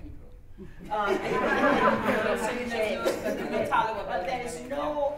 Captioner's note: laughter